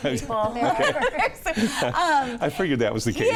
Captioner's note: all laugh